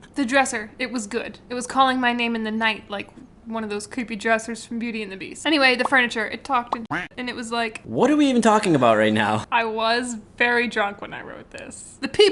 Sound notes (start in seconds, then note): 6.9 quacking